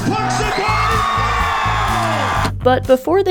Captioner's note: crowd cheers